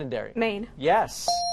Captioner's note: dinging